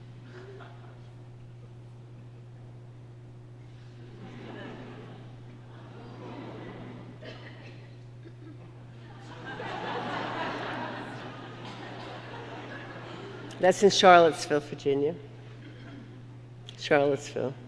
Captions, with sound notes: (audience laughing) That's in Charlottesville, Virginia. Charlottesville, that's Tottenville.